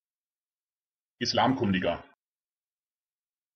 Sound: fast Pronunciation

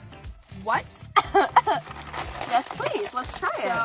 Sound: laughing

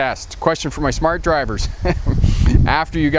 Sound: chuckles

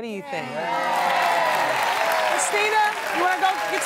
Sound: applause

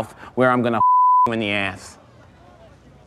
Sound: beep

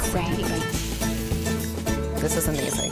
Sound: frying pan sizzles

